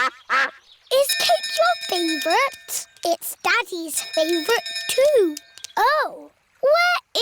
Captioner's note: quacking; bell dinging